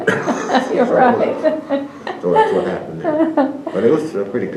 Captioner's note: laughter